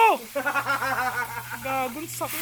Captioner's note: laughs